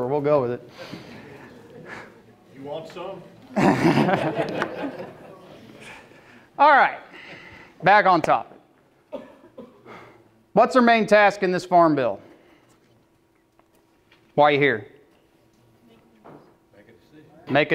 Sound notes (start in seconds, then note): 3.4 laughing